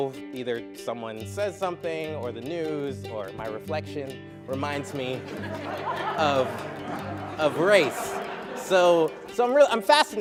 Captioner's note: laughter